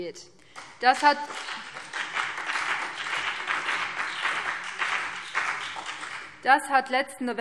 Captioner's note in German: Beifall BÜNDNIS 90/DIE GRÜNEN und vereinzelt CDU